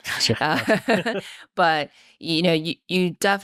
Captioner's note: laughing